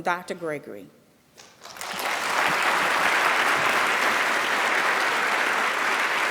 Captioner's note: applause